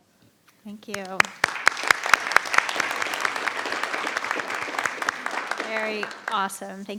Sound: everyone applauds

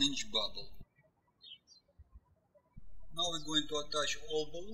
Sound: birds chirping

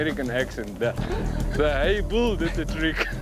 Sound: everyone laughs

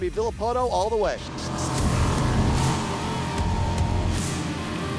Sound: jetboat sounds

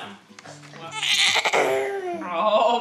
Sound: baby noises

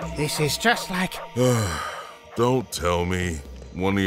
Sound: sigh

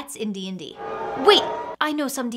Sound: audience boos

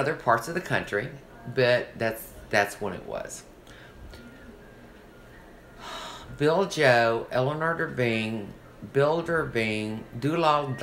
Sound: sighs

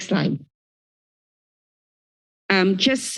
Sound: silence

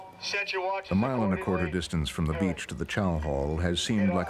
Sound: voiceover

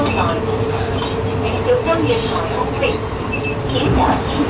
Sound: Cantonese

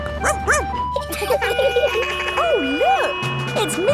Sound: sirens sounding; barks; laughing

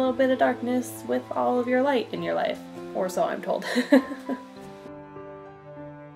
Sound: laughs

